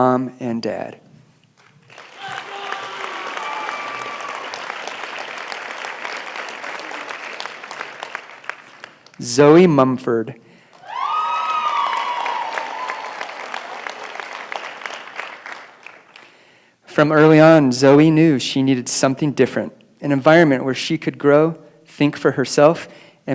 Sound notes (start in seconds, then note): 4.0 applause; 10.7 cheering and applause